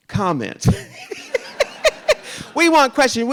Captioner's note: RuPaul laughs